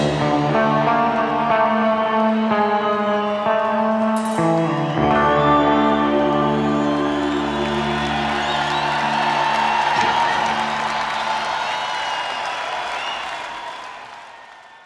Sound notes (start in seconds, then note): 5.8 guitar fades; 8.4 audience cheering